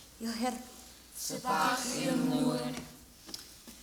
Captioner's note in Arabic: بالعربية; بالعربية